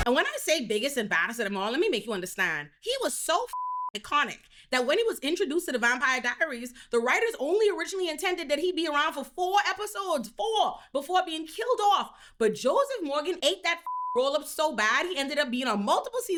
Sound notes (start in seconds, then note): 3.5 beep; 13.8 beep